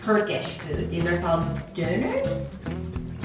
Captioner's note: speaking in foreign language